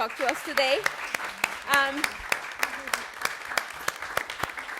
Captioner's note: audience applauds